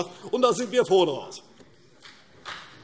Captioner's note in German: Beifall CDU und BÜNDNIS 90/DIE GRÜNEN